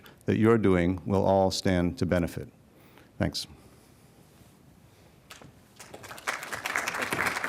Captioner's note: people clapping